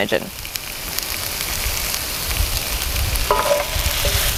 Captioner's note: onions sizzling